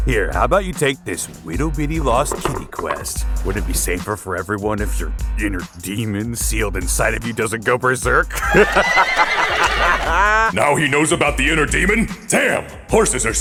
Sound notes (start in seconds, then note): 8.3 horse laughing; 8.4 horse neighing